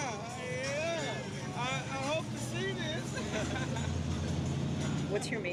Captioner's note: laughing